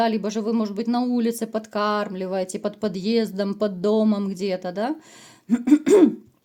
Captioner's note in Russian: откашливается